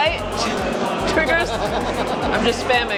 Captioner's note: host laughs